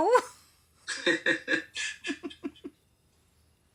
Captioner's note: laughs